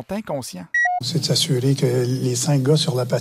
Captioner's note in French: voix de Claude Julien